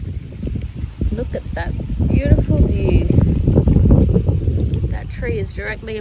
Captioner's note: wind blows steadily